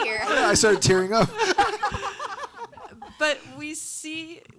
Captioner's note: panelists laughing